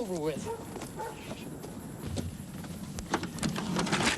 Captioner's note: dogs barking